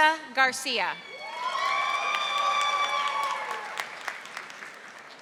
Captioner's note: audience applauding